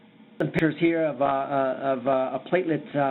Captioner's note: audio breaks